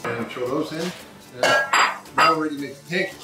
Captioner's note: bowl clinks